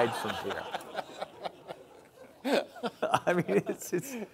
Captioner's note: audience laughing